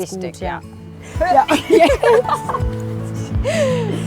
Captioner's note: laughter